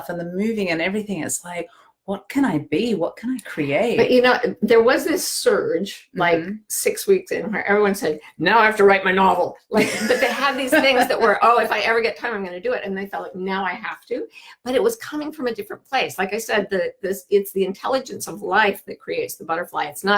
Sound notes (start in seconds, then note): 9.8 laughing